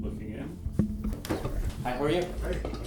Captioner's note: door closing